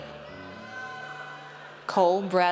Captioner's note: audience cheers